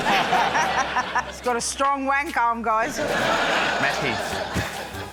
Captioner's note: laughter; laughter